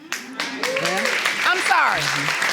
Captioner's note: audience applauding